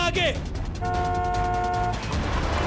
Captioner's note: honking